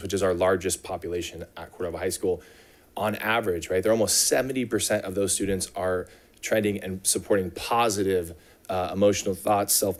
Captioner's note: none